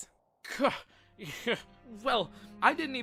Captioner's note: scoffs